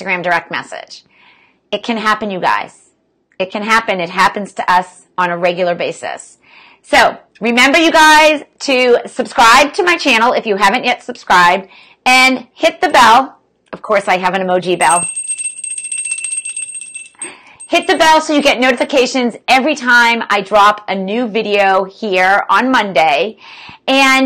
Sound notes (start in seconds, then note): 14.8 bell ringing